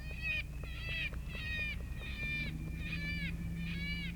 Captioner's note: cawing